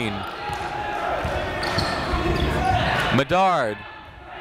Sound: chatter

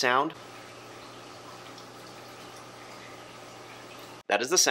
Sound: light humming

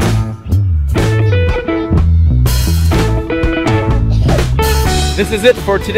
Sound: girl laughs quietly

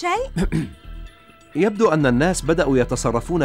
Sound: clears throat

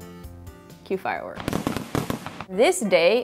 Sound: fireworks popping

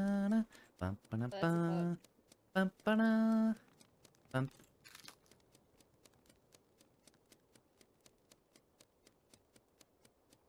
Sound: humming

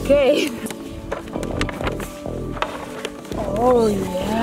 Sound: bags crinkling

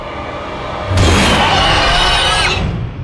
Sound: dinosaur roars

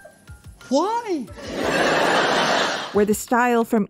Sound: laughter

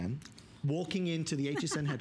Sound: laughter

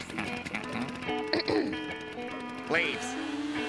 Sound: clears throat; giggling

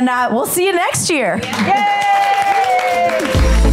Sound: applause; upbeat music

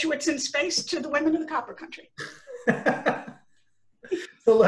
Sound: laughter

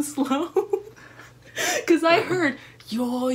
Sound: laughter

